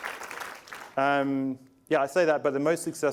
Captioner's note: applause